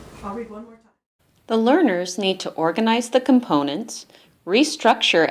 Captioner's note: voiceover